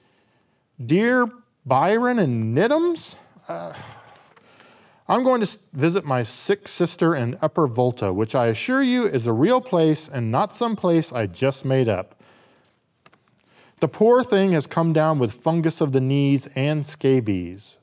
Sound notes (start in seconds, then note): 3.4 groans